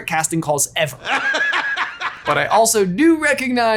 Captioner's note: J. Jonah laughing